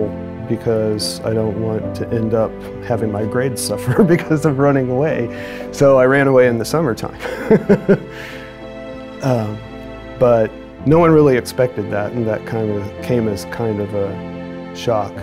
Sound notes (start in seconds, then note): 3.9 chuckles; 7.2 laughs